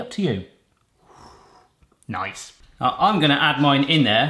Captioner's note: blows